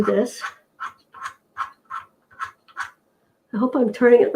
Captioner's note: screw turning noise